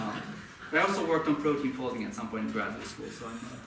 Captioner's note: audience laughing